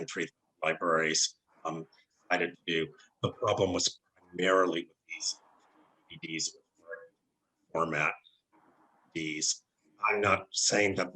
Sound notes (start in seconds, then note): 5.3 technical Interference